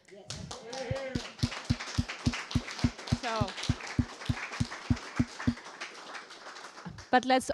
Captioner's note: applause